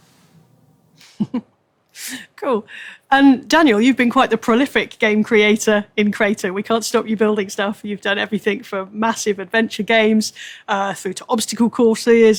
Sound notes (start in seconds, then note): 1.0 laughs